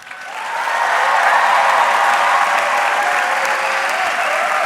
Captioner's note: audience cheering